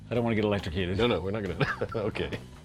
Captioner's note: laughs